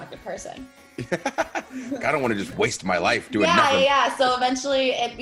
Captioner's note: laugh